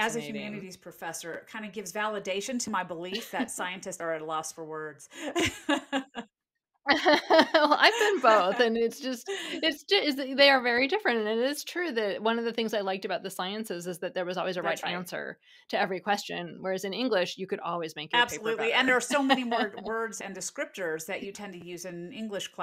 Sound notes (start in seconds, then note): 6.9 laughs